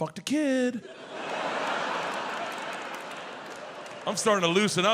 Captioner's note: audience laughs